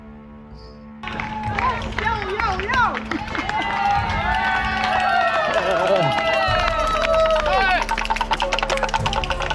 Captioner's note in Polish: Aplauz